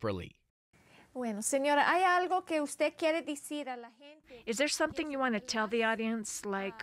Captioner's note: speaking in foreign language